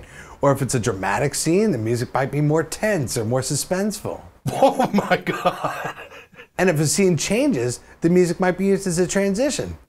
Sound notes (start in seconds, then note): 4.4 laughing